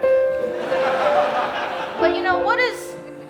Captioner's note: audience laughing